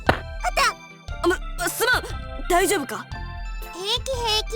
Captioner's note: alert